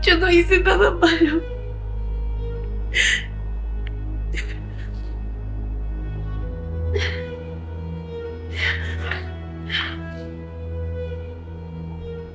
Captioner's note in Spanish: lloros